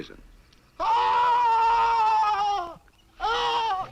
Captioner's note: man shrieking